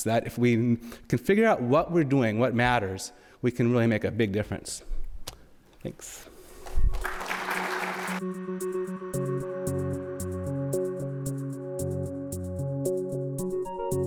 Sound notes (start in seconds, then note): 6.6 audience applauds; 7.6 electronic music